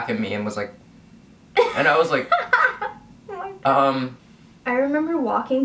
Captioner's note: laughs